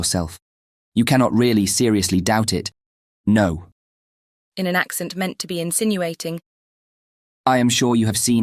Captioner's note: in an accent meant to be insinuating